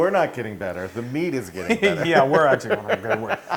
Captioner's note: laugh